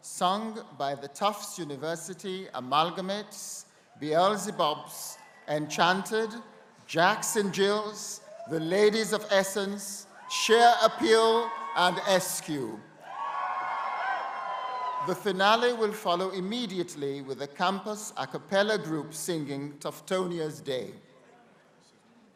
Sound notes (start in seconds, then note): 12.9 crowd cheering